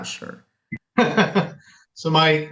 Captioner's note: laughs